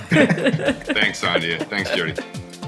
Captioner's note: laughing